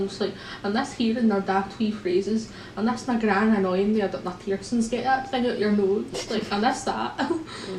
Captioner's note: laughter